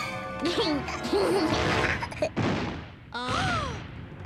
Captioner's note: Tucker giggles; footsteps thump; Lizbeth gasps